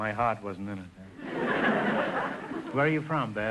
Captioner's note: audience laughter